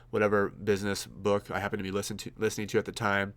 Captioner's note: none